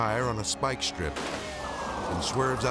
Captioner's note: tire bangs; siren wailing